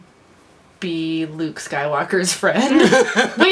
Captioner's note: laughs